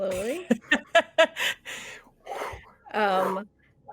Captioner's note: laughs